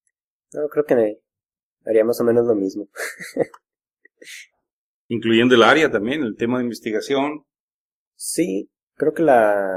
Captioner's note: laughs